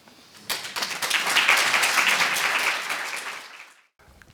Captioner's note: clapping